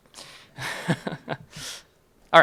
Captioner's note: chuckles